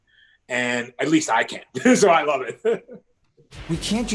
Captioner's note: laughs